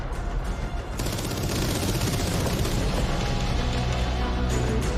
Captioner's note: gun shots